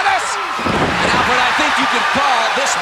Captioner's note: audience cheering